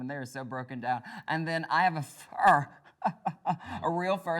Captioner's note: laughs